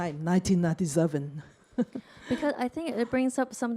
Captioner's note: chuckles